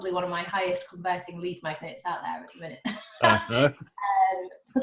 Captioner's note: laughing